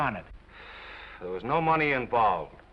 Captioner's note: Norman sighs